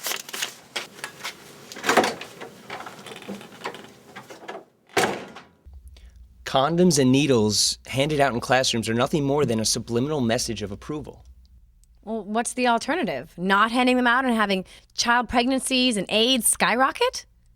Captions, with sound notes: (paper rustling) (door clicks) (door closing) - Condoms and needles handed out in classrooms are nothing more than a subliminal message of approval. - Well, what's the alternative? Not handing them out and having child pregnancies and AIDS skyrocket?